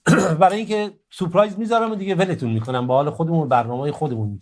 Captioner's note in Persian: گلویش را صاف می‌کند